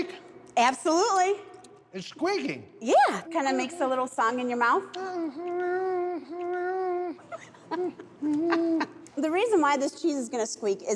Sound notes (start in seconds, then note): 4.9 humming, chewing; 7.3 laughing